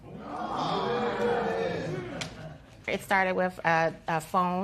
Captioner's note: spectators exclaiming